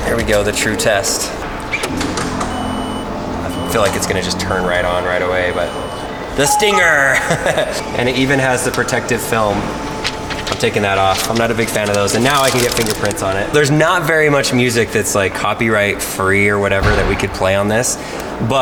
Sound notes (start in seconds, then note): 2.5 car beeping; 6.8 laughs